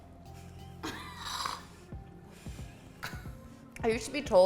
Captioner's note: laughing